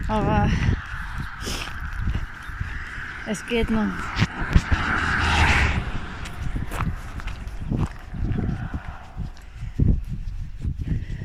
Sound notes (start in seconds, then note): 5.1 traffic; 7.6 waking & wind